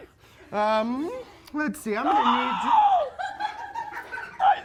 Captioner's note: screaming